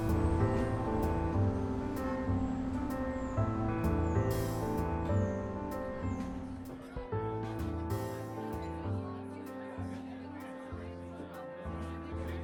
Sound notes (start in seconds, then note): 0.1 light jazz music; 7.7 bar patrons chattering